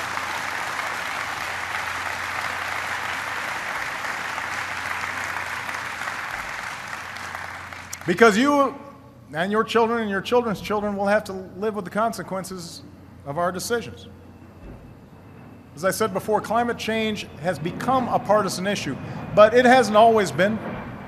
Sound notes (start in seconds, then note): 2.5 applause